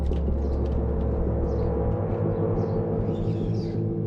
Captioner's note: deep humming